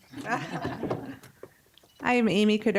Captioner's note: audience chuckling